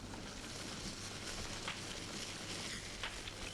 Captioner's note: fire crackling